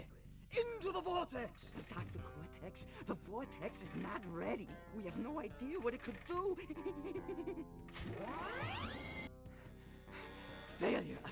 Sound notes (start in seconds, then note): 6.8 nervous laughter